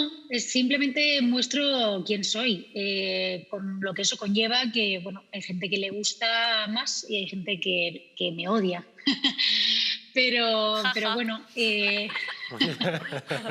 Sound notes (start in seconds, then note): 10.8 laughs